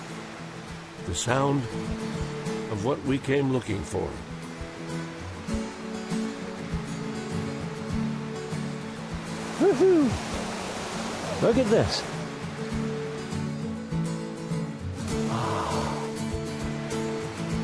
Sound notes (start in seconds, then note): 5.2 water rushing